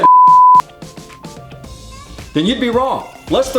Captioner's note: beeping sound